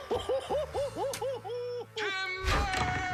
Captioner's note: laughs